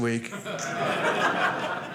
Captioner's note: audience laughing